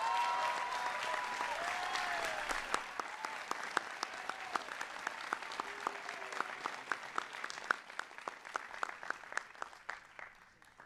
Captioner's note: applause